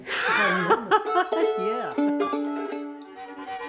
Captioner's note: laughing; fast paced music